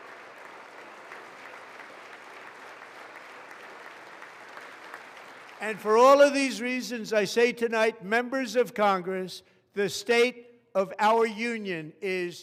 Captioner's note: applause